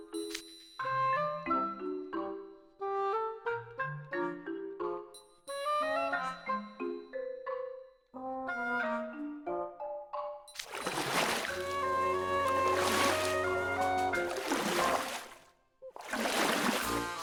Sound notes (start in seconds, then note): 10.5 splash, splash